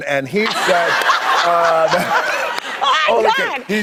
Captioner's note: audience laughs